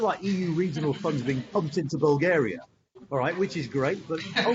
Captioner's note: laughter